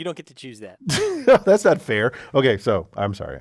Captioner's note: laugh